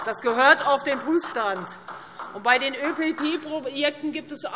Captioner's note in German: Beifall